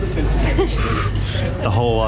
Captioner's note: laughs